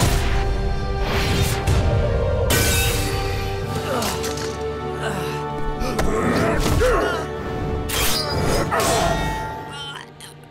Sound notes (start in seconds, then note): 3.3 grunting